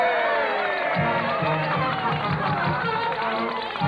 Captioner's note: cheers and applause